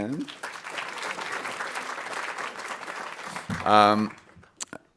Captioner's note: audience applauding